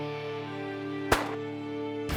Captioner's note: gun shot